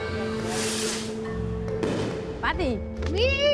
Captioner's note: hiss, explosion